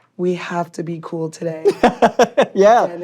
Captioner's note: laughing